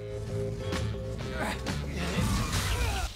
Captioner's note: grunting